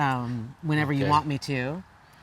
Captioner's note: none